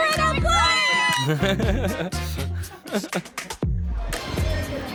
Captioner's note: chuckling